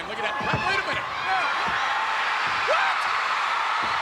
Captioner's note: crowd cheering